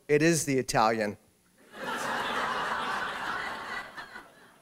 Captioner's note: laughter